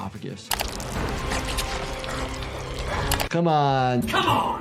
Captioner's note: intense music; squelching